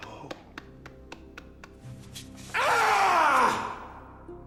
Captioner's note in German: Geschrei